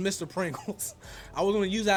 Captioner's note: laughs